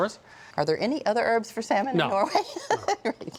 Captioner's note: laughing